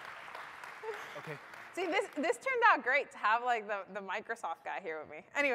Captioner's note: applause